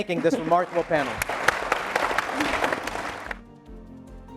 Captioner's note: applause